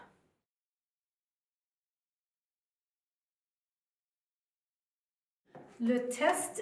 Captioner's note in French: silence